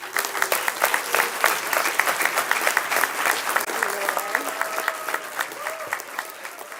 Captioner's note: clapping